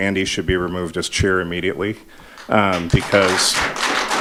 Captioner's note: audience applauding